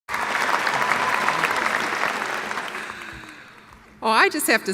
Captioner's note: audience applauds